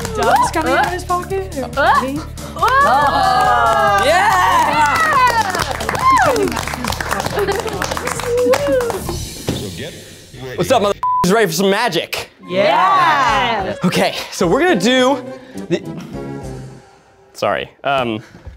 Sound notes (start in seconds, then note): 2.6 audience cheers